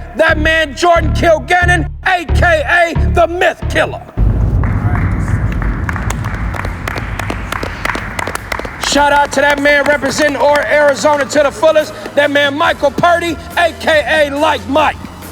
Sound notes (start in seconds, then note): 5.3 all applauding